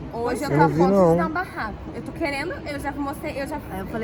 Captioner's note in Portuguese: amigos falando ao fundo